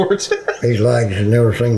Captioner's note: laughing